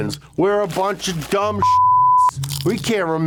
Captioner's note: beep